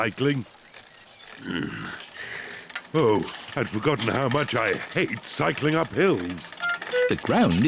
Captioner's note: sighs happily; grunts